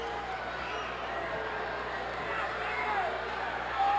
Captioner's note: boos